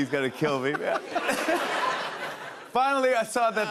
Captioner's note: laughter